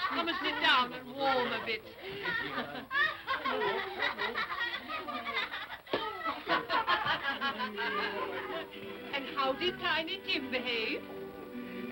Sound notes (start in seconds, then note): 1.9 children laughing; 7.5 sentimental music